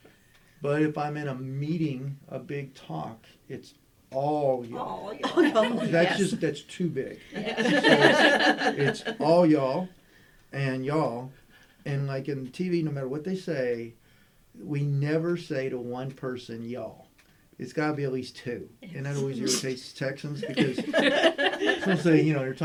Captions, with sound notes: but if I'm in a meeting, a big talk, it's all y'all. That's too big. All y'all and y'all, and like in TV no matter what they say, we never say to one person y'all. It's gotta be at least two Texans. (Laughter)